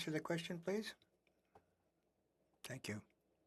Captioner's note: speaking French